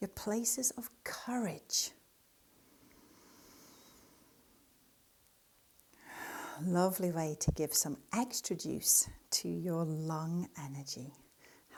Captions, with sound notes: your places of courage. (breathes deeply) Lovely way to give some extra juice to your lung energy.